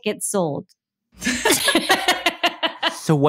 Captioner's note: laughter